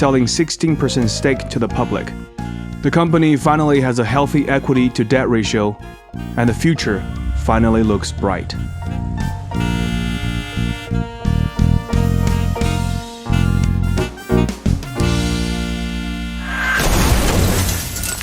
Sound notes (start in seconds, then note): 12.9 crash sound